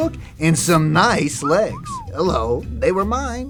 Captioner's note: whistling